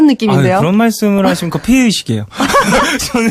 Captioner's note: both laugh